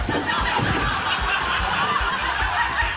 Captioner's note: laughter